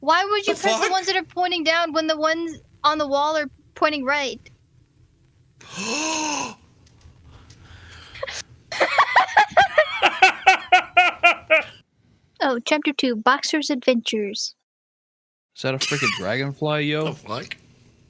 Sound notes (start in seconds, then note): 5.6 gasps; 8.8 laugh